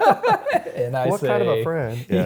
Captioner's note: laughing